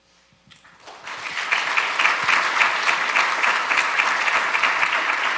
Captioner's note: audience applauding